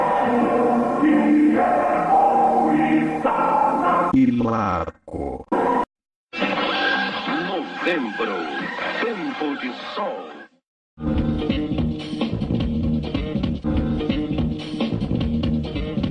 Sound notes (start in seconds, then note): 7.0 male announcer speaking Portuguese; 10.8 retro music plays